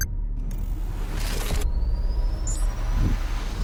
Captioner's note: graphic whooshing